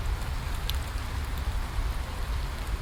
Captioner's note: none